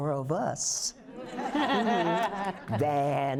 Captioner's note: laughter